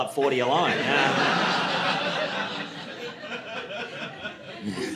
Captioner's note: audience laughing